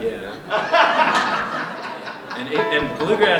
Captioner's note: laughter